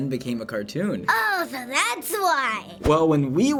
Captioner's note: sulkily